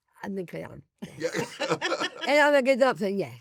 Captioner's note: laugh